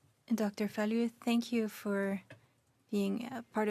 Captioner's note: speaking French